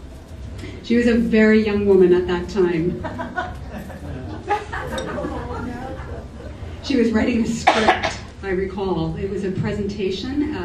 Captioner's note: laughter